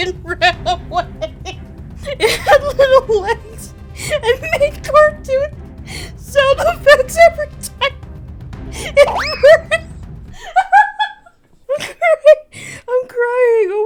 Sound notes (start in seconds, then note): 10.3 laughter